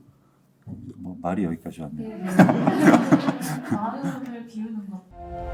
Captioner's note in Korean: 웃음